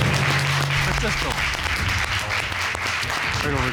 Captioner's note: audience applauding